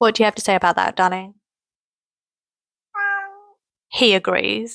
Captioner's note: meow